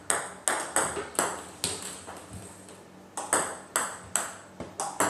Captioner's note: ball ping pong hitting continues